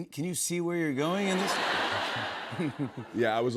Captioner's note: laughter